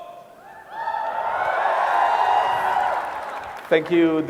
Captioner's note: cheering